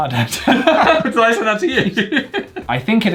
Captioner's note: both laugh